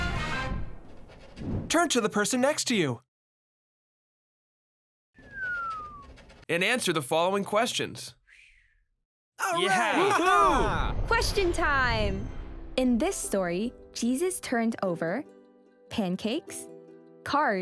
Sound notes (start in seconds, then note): 1.9 male voices